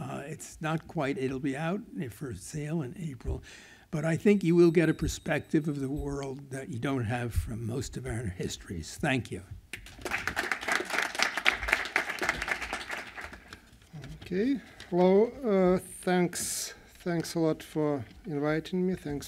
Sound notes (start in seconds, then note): 9.7 applause